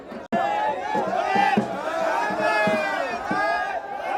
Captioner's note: cheers